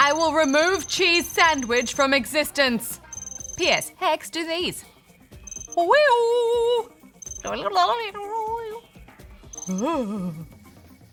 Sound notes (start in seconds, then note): 7.2 gargles; 9.3 quivering sound